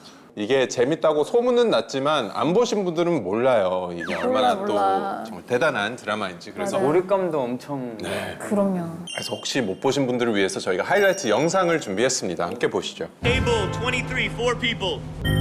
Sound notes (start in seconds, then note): 3.9 frustrated